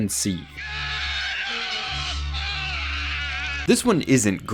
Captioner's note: man screaming